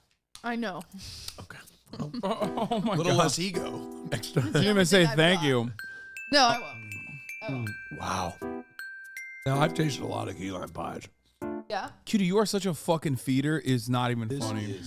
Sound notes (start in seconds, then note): 1.9 chuckles